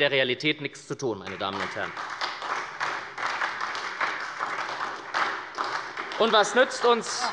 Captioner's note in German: Beifall bei der SPD